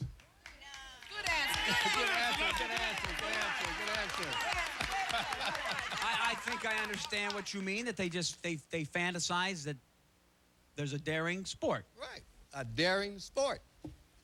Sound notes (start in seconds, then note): 4.4 cheers